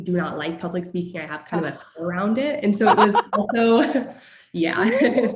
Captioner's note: laugh